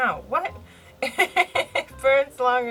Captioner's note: laughs